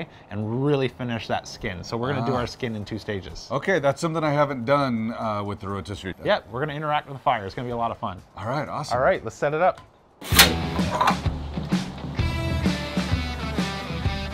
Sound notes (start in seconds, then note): 10.2 metal scraping; 10.3 upbeat rock music